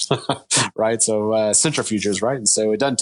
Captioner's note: chuckling